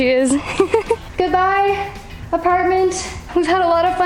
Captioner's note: laughs